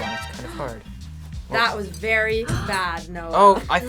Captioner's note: gasps